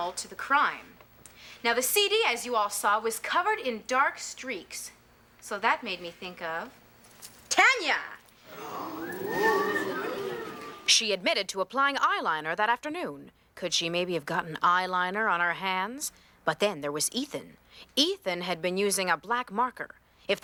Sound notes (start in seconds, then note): 8.5 all gasp